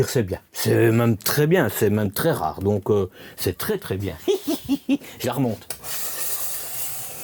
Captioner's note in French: rires